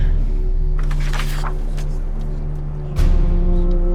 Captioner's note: page rustling